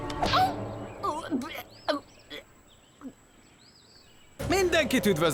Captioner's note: spits